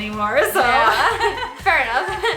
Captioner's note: laughs